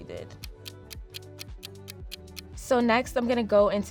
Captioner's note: clock ticking